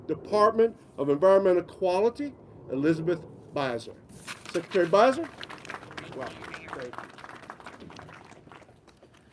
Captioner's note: applause